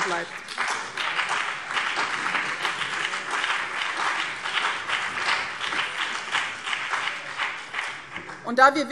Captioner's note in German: Beifall BÜNDNIS 90/DIE GRÜNEN und CDU